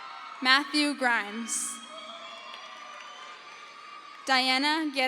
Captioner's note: crowd cheers